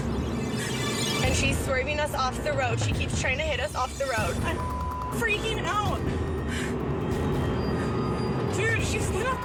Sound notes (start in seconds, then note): 3.9 beeps